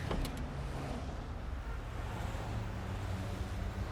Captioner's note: car doors click